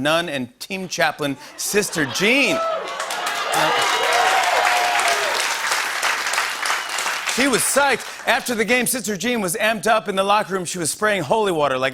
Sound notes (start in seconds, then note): 1.6 cheers and applause